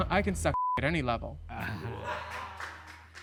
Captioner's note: all chuckling